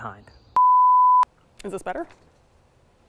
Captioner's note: production tone beeps